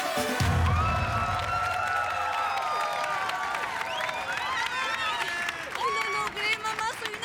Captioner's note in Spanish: Arengas del público